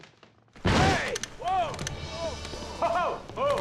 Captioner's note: loud crash